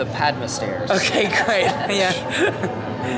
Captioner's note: laughing